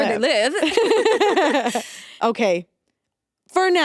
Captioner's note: both laughing